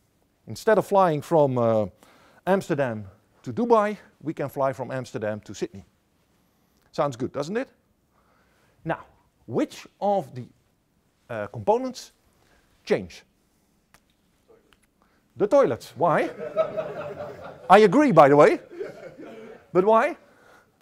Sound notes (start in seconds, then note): 16.2 laughter